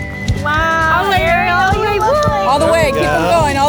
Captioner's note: group cheers